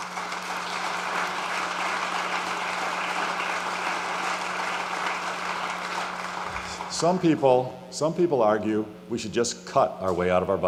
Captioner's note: applause